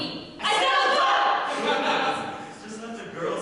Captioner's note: audience laughter